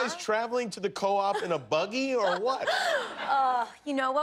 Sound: laughter

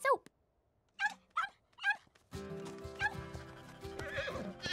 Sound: yapping; baaing; neighing

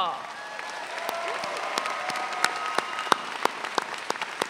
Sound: audience cheering

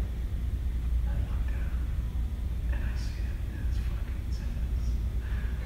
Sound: whispers

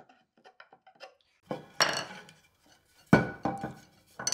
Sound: tools pounding

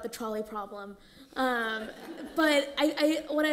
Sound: laughter

